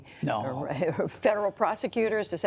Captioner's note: laughter